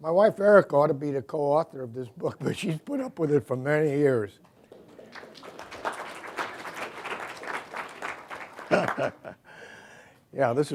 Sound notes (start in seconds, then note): 4.6 applause